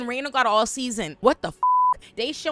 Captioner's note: beep